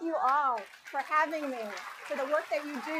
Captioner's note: applause